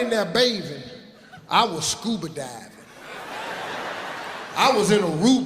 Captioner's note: audience laughing